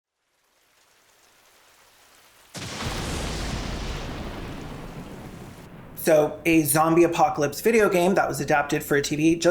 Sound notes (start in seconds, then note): 2.5 lightning Strikes